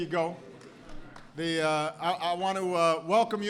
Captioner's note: applause